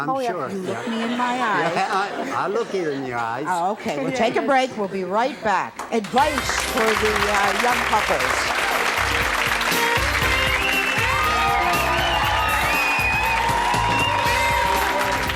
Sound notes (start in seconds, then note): 9.1 audience applause; 9.1 jazzy music